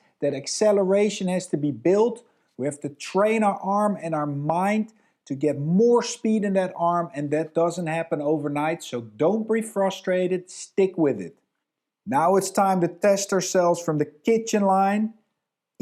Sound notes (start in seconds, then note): none